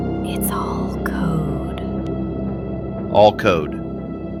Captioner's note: whispers